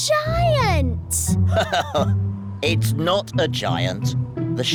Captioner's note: laughs